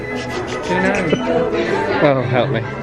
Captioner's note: laughs